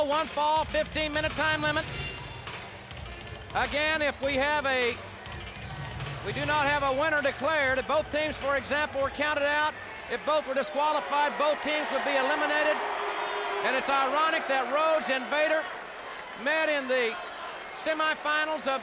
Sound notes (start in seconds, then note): 12.5 audience cheers